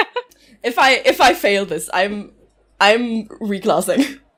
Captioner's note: laughs